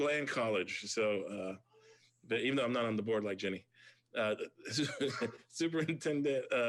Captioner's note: laughs